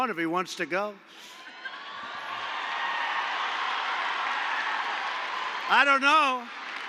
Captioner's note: applause